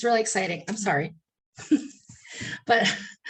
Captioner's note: chuckles